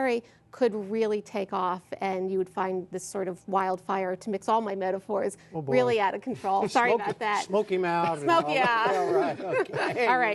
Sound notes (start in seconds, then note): 8.1 laughter